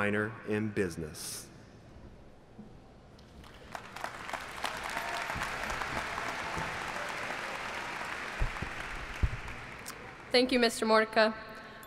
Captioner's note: applauding